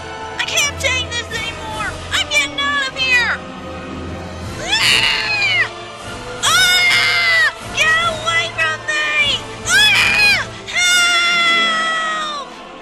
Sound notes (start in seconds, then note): 4.6 screams; 10.3 screams